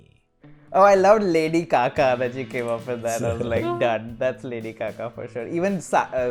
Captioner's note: laughter